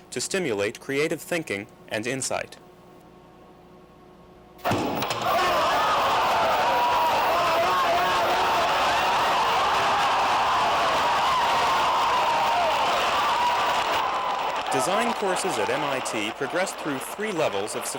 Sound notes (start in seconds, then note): 5.0 cheering